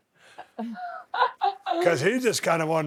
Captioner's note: Becky laughing